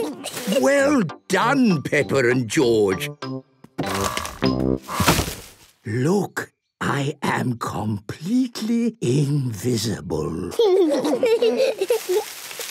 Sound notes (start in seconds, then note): 5.8 whispering; 10.4 kids giggling